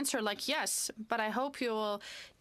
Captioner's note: speaking French